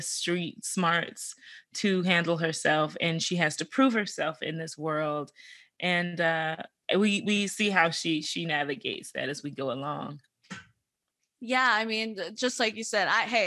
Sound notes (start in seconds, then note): none